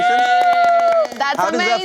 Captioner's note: cheering